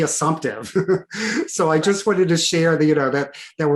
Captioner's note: laughing